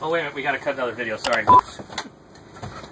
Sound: beeping

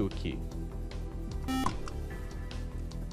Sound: buzzer

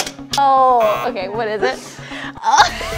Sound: buzzer sounds

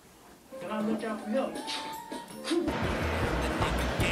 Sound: man talking faintly on TV; rhythmic rap music

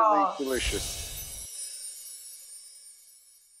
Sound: loud chimes

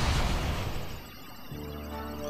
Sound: machine computes, whirs

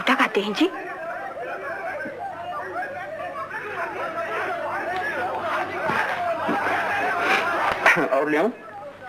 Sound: the clamor continues in the background

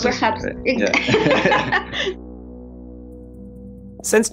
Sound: laughs

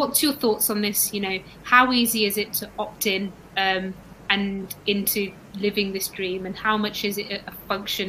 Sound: erm

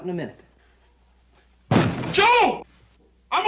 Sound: bangs on door

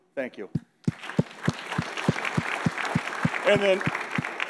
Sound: audience applauds

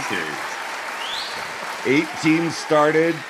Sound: audience applauding

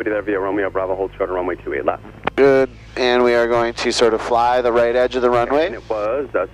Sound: radio calls

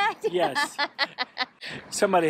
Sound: laughs

